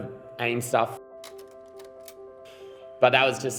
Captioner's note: clicking